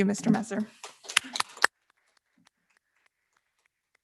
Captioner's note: applause